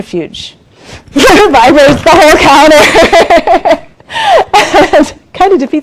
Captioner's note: laughs while speaking